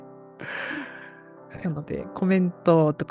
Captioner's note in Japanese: 息をのむ音